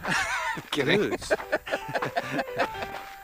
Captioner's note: laughs